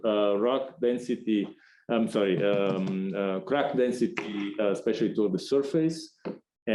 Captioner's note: knocking noise